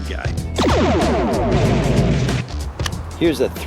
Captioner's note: explosion